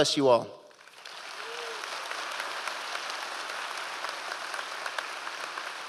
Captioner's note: audience applause